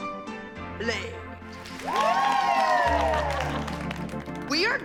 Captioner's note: cheering and applause